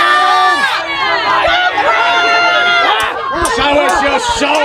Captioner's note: audience jeering